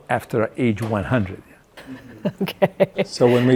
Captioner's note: laughing